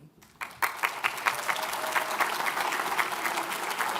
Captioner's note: audience cheers